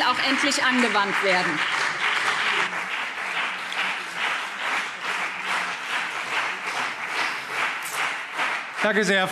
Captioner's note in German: Beifall BÜNDNIS 90/DIE GRÜNEN und CDU